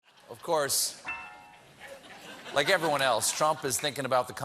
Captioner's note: laughter